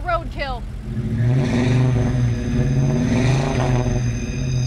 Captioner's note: engine revving